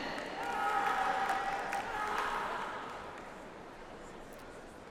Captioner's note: audience applauds